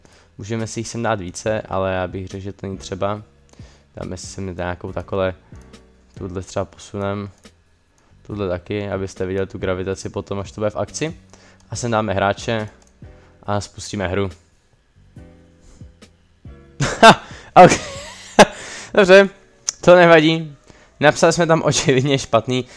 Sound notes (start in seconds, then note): 18.4 wheeze